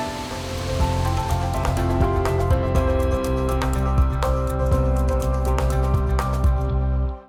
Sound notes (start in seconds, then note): 0.0 water roars; 0.0 soft upbeat music